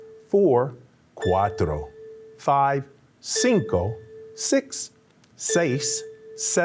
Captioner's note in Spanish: habla español; habla español